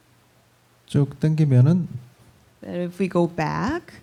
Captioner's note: speaking korean